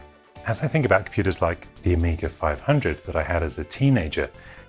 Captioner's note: none